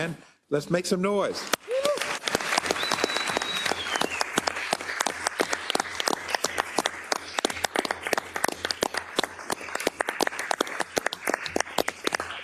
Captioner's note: applause